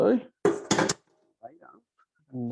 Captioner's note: colander clattering